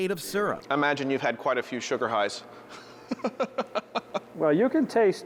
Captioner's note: laughing